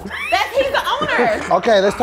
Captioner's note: laughing